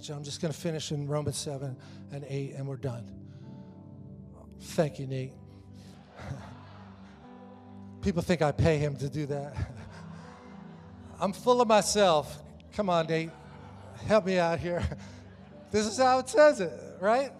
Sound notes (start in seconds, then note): 6.1 congregation laughs; 9.9 congregation laughs